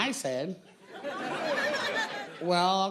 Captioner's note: audience laughing